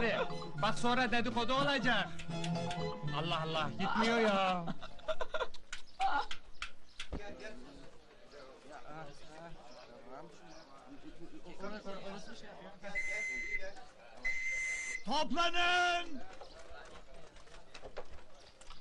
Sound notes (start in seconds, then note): 14.2 whistle blowing